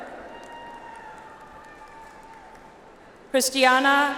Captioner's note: audience applauds